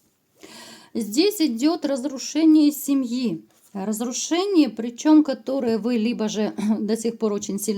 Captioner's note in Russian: откашливается